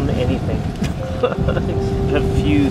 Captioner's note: laughs